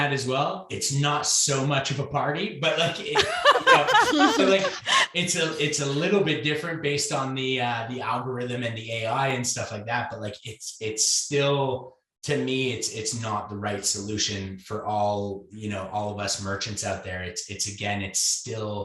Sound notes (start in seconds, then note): 2.8 laughs loudly